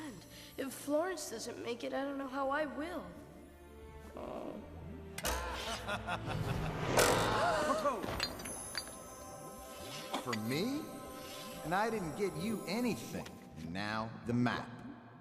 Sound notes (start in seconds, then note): 5.3 evil laughter; 6.9 Ermintrude gasps